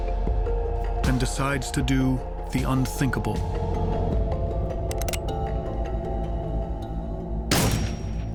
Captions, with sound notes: and decides to do the unthinkable. (weapon clicking) (weapon fires)